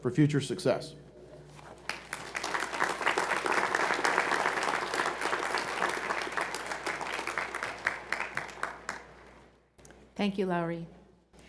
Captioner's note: applause